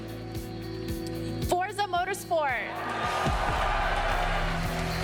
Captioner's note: crowd cheers